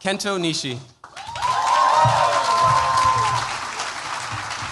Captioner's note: cheers, applause